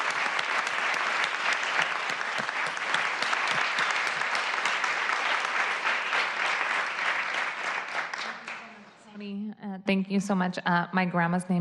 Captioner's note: applause